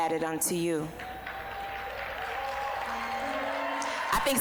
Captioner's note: applause